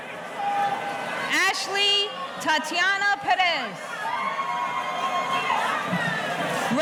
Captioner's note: audience cheering